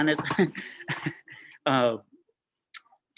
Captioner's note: laughs